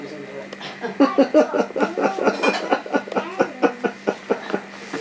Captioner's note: cameraman laughs